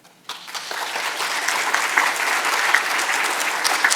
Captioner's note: audience applauds